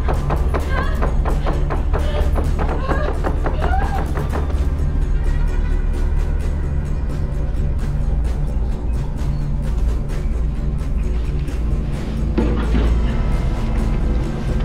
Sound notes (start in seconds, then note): 2.0 Ruth yelping